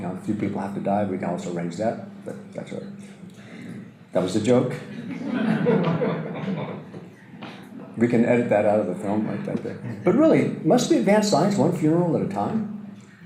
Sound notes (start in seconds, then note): 4.9 audience Laughter